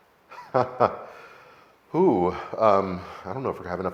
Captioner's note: laughing